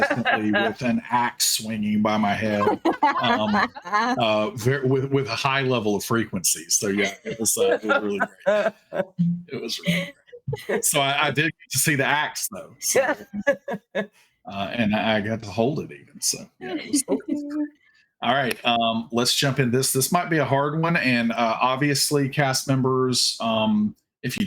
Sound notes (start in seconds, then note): 2.8 everyone laughing